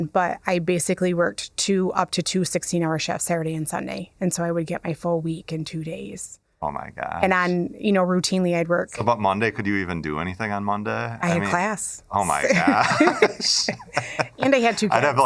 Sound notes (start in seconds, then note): 12.4 laughter